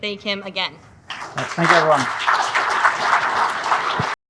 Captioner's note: audience claps